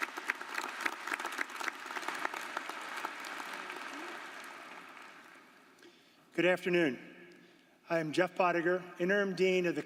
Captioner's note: applause